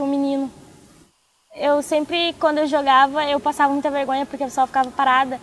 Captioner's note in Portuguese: vozes ao fundo